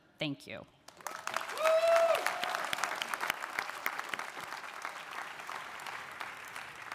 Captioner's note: audience applauds; attendee cheering